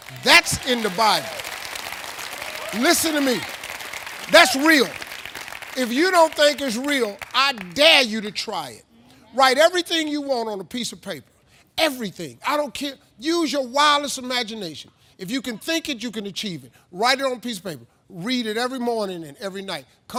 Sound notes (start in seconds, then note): 1.9 audience applauding; 1.9 audience wooing